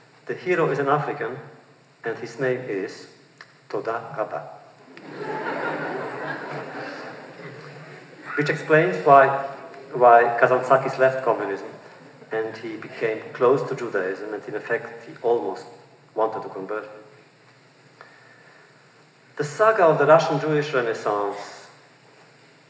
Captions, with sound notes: The hero is an African, and his name is Toda Raba, (laughter) which explains why Kazantzakis left communism, and he became close to Judaism, and in effect he almost wanted to convert. The saga of the Russian Jewish renaissance,